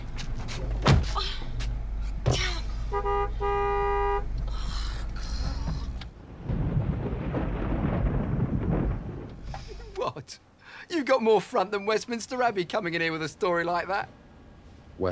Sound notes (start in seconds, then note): 0.7 car door thudding; 2.8 car horn tooting; 5.3 thunder rumbling